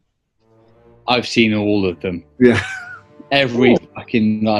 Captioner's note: laughs